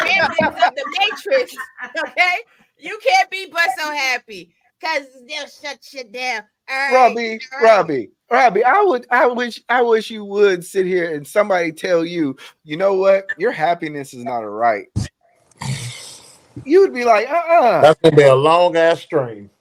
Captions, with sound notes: (laughing) The matrix, okay? You can't be but so happy because they'll shut you down, all right? - Robbie, Robbie, Robbie, I wish you would sit here and somebody tell you, you know what? Your happiness is not a right. You would be like, uh-uh. - That's gonna be a long ass dream.